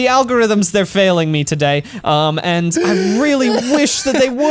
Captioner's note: wheeze laughs